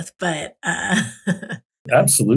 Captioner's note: chuckles